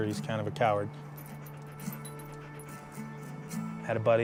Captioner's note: grunt panting